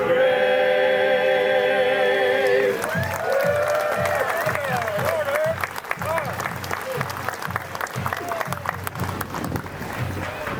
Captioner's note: applause